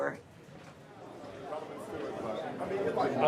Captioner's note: indistinct conversations